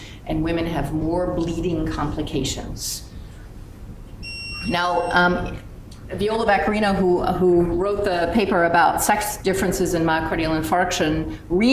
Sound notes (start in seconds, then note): 4.2 machine beeps